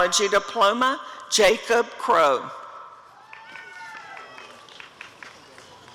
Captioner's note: applause and cheering